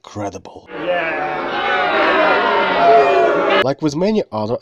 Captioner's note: audiences booing